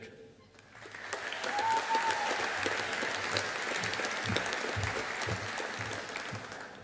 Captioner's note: audience applauding